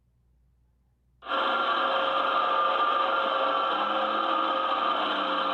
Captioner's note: vacuum whirring